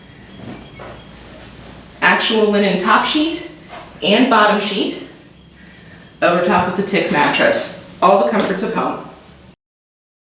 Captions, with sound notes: [Bedding continues to be ruffled] "Actual linen top sheet and bottom sheet over top of the tick mattress, all in the comforts of home.